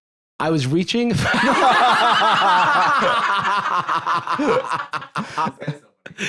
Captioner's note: all laughing